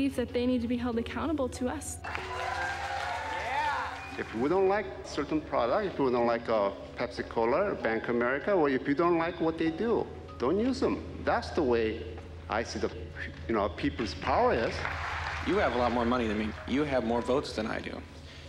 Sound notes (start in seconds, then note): 2.0 crowd applauds and cheers